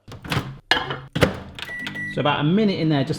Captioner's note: microwave door banging; microwave beeping